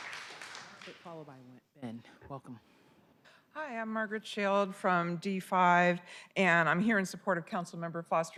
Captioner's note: applause